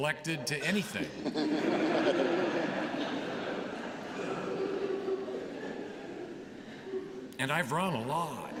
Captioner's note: laughter